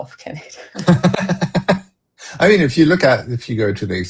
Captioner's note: laughter